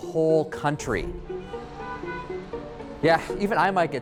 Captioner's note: car horns honking